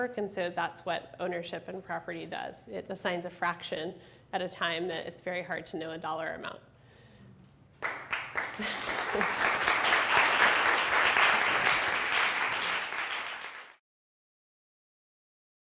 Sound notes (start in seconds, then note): 7.8 audience applauding; 8.5 laughing